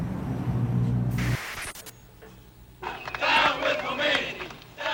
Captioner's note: تشویق حضار